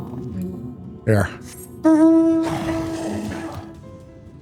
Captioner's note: sigh